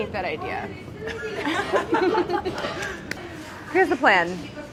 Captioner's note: laughing